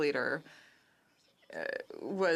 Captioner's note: speaking French